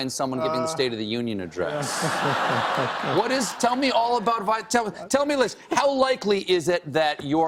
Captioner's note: laughter